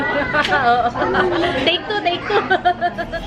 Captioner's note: laughs